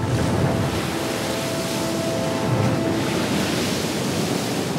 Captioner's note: waves crashing